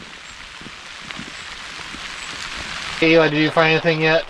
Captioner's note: rain falling